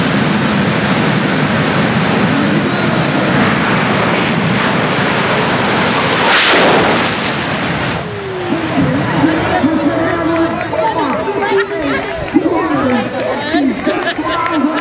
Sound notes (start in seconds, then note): 5.3 whoooosh sound; 8.0 crowd cheering